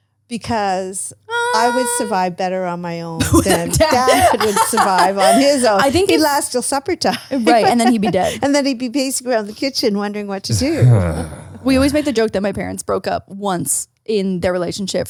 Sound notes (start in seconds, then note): 3.2 laughs